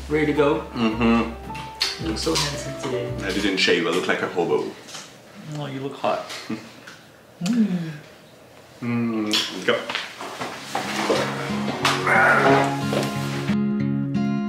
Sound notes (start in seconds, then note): 1.6 smooches; 8.9 smooches; 10.6 upbeat acoustic music